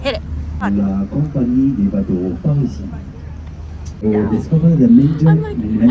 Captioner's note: person speaking in French